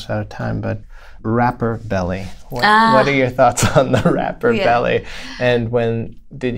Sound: laughter

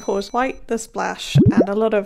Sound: bell dings; bubbles popping

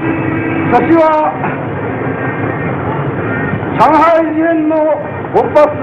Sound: Yamamato speaking Japanese

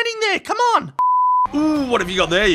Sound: beep

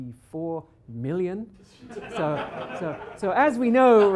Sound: laughter

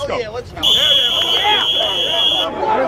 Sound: whistle blows

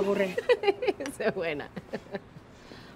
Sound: laughs

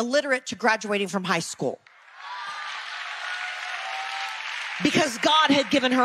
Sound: audience applause

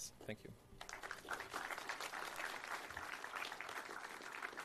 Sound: applause

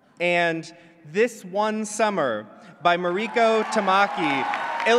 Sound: clapping

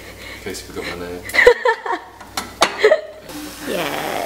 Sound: laughs

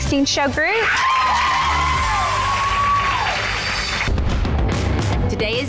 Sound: cheering and clapping; rhythmic drumming

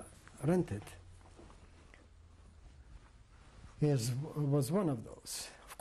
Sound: pauses for 3 seconds

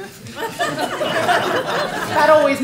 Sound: laughter

